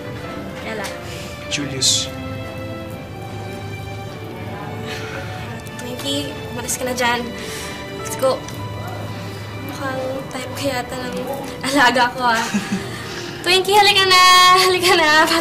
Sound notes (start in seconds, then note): 12.4 Julius laughs lightly